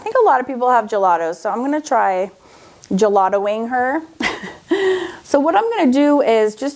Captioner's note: laughs